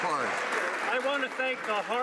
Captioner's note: some Applause